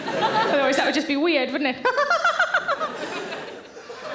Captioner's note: audience laughing; laughing